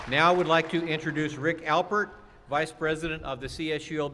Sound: applause

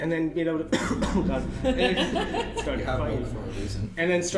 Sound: coughing

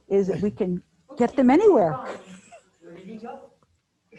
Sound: chuckles

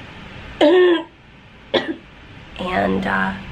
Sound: clearing throat

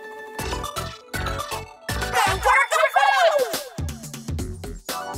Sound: upbeat electronic music; cheering in squid language

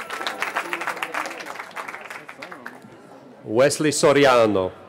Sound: cheering

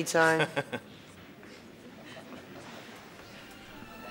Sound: crowd chuckles

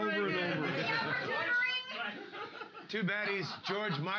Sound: audience shouting; loudly laughing

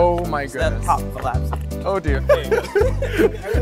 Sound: laughs

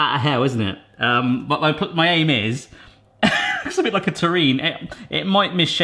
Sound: laughs

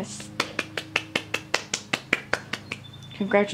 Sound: clapping

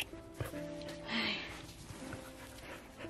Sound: sighs

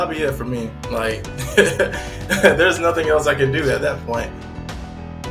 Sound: laughs

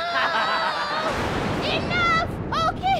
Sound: cries; laughter

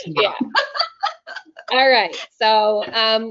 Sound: laughing

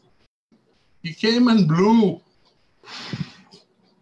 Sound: sound of wind

